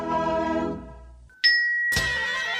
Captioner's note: ting!